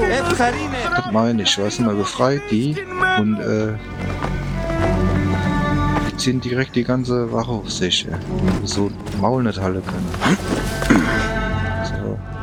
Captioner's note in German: räuspern